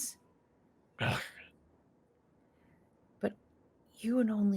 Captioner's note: heavy voice